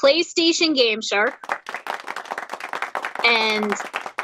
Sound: crowd applauds

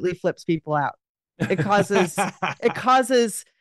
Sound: laughs

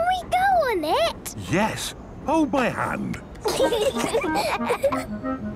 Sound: children giggling

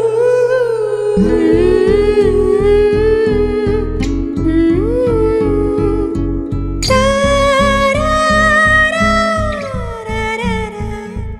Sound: 𝅘𝅥𝅮 Humming 𝅘𝅥𝅮

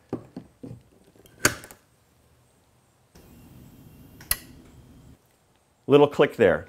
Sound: plug clicks; wall mount clicks

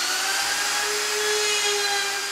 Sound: loud electrical whirring

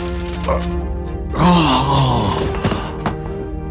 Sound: groans

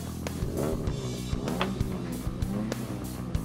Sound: engine revs

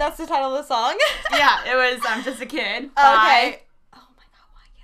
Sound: laughs

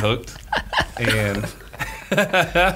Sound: laughing

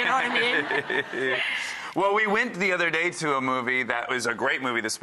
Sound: laughing

